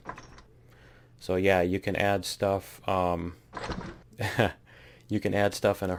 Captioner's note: laughs